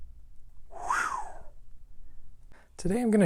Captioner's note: swooshing